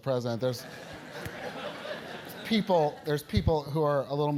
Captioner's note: laugh